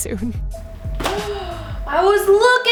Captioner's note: gasps